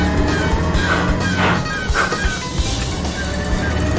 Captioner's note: gears grinding